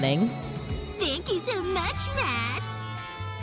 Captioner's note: mockingly